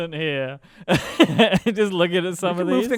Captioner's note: laughs